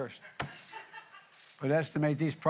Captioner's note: laughter